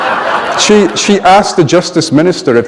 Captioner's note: laughter